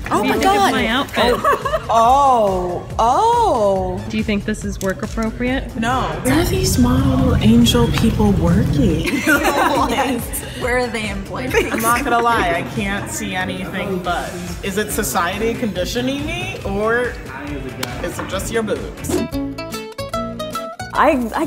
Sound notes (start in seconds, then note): 9.0 laughter; 19.0 banjo plucking